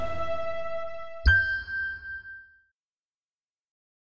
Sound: logo dings

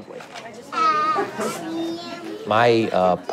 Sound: indistinct chatter

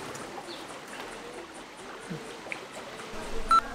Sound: bird chirping

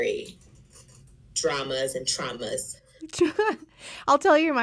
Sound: chuckles

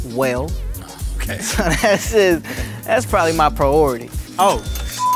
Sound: laugh

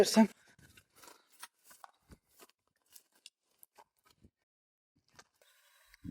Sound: footsteps, rustling of grass

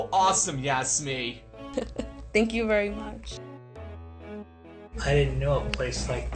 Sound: laugh

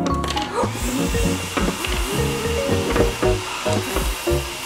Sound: blow dryer whirring

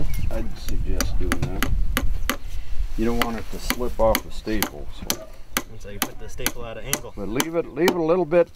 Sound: pounding

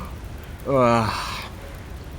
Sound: yawns

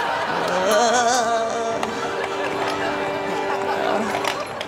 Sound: laughter

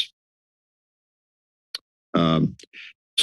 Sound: clicks tongue

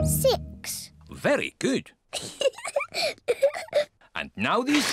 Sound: laughs

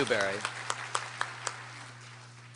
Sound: applause

